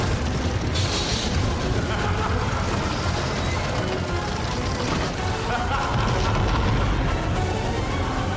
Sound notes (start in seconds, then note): 1.5 evil laugh; 5.0 evil laugh